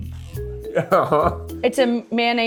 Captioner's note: laughing